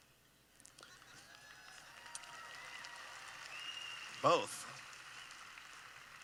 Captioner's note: applause